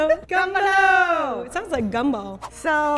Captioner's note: speaking in Japanese